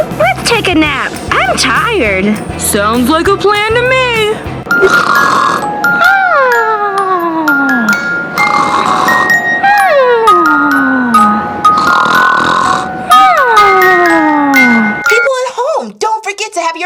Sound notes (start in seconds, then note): 4.7 all snoring; 6.4 music box lullaby